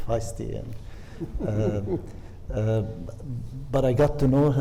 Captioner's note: panelist chuckles